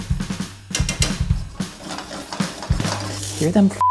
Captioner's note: upbeat drumming; pan grinds on stove; spoon tapping